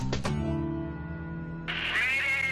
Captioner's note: static-filled radio call